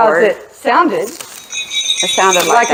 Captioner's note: crystal tinkling